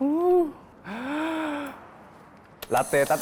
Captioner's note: deep breath